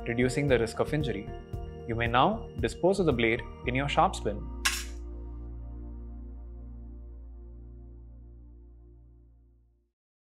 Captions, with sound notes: reducing the risk of injury. You may now dispose of the blade in your sharps bin. (blade clattering) (upbeat music)